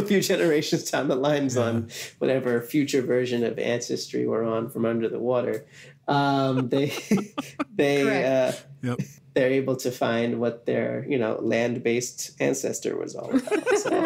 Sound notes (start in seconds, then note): 6.3 laughs